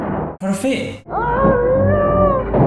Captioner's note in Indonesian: Mengerang